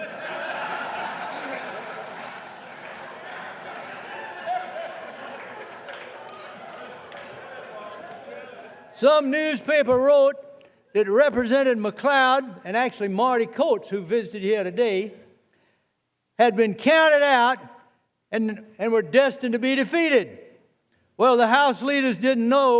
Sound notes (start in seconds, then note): 3.7 laughter